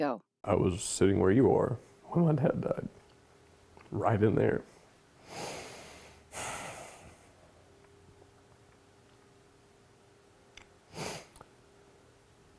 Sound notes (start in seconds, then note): 6.3 sighs